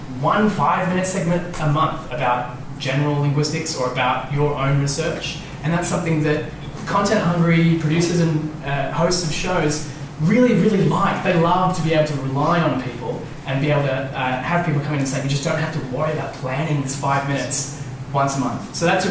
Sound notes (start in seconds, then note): none